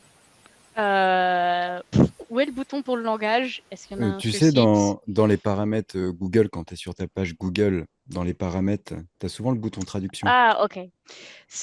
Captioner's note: translating from French